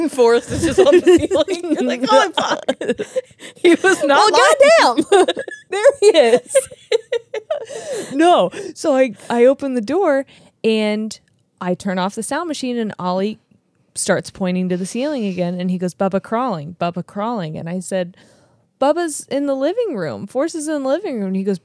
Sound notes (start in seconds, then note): 1.4 laugh; 5.2 laughs; 6.7 laugh